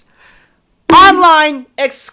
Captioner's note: bonk